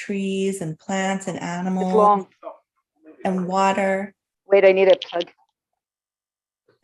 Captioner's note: chattering